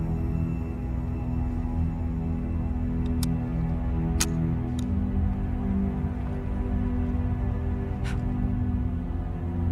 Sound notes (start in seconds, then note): 3.0 gun clicking